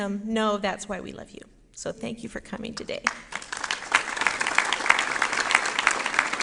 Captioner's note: applause